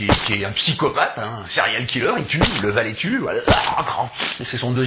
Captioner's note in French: aaarg!